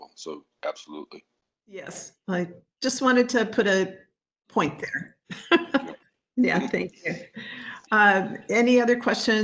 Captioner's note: laugh